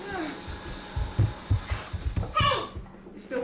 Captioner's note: coughs